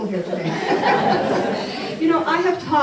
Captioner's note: laughter